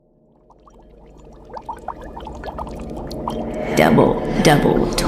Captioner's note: bubbling cauldron